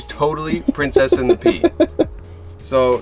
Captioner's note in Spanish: risas